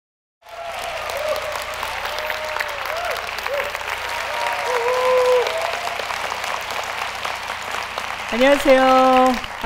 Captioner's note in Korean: 박수와 환호